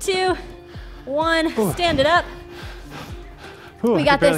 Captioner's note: breathes heavily